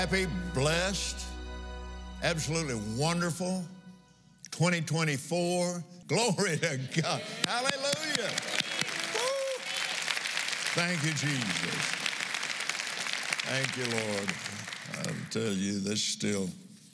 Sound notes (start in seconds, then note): 8.8 applauds